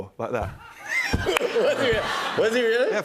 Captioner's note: laughter